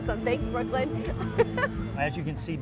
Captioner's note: laughs